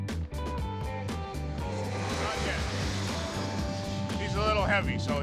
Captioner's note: country music; plane flying